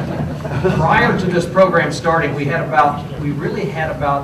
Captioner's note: laughter